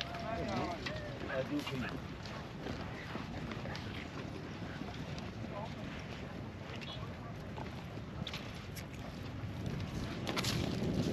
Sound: speaking in foreign language

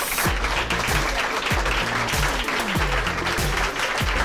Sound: applause

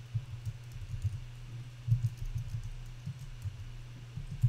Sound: typing

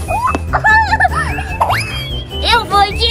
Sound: laughs

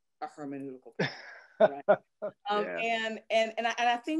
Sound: laughter

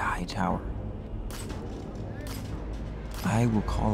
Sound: metal clinking

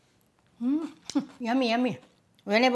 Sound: laughs

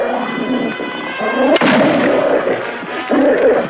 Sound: gunshot

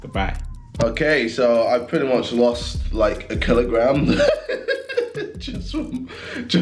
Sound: laughs

